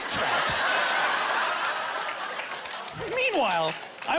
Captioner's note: laughing